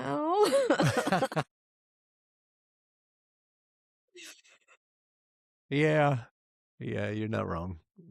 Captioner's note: laughing